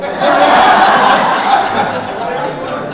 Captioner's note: audience laughing